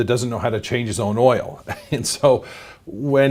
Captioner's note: chuckling